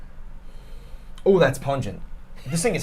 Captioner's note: sniffs